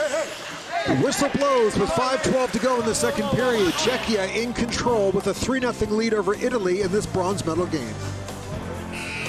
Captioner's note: whistle